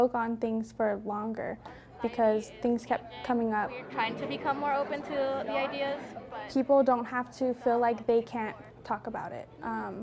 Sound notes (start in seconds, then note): 4.5 students talking